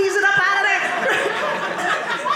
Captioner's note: audience laughing